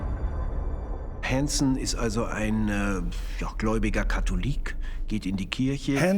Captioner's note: speaking German